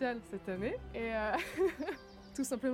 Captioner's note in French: rire